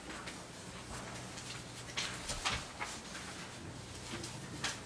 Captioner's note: documents shuffling